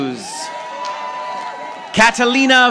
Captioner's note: audience applauding